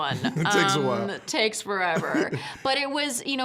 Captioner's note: laughing